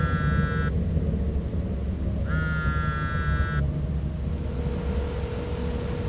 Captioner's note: cell phone buzzing